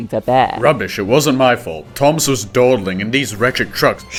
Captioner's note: indignantly